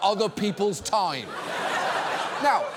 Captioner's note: audience laughs